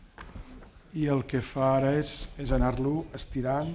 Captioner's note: speaking spanish